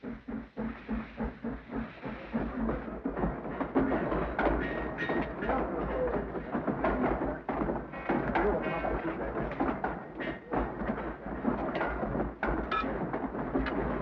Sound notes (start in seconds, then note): 0.2 train chugs; 4.5 tools clang